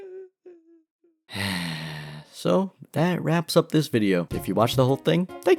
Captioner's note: crying; sigh